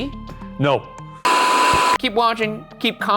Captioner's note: television static